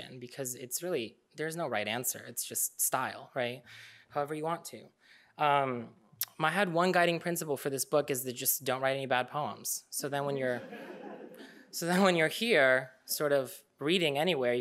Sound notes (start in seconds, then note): 10.6 audience laughing